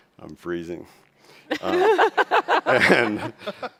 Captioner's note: chuckles